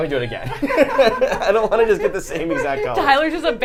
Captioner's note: laughter